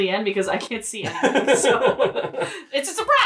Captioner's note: laughs